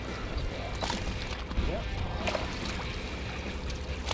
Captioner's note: water splashing